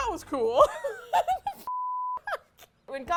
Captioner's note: laughs